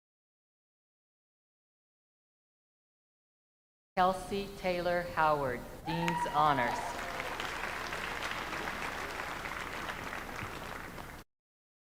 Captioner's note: names being called